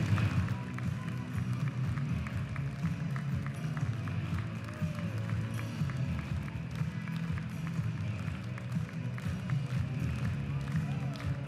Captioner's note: continued applause